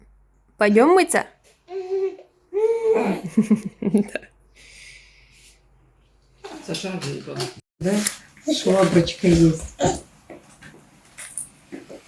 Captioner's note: laughter